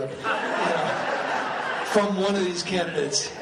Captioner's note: laughing